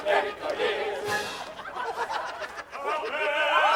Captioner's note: laughter